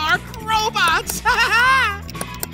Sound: laughing

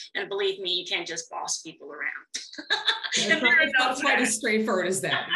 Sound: both laugh

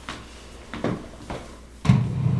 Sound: shuffling

